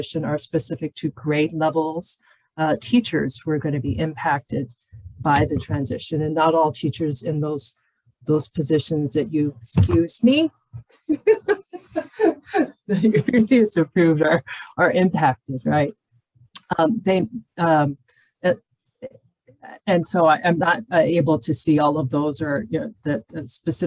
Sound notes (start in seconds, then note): 11.0 laughing; 13.0 murmurs